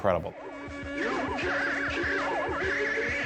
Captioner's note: distorted